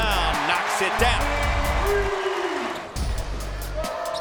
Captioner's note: cheering